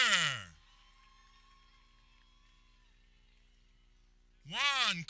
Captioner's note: people cheering